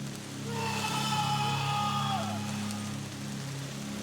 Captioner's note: screaming